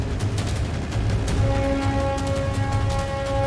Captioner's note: plane engine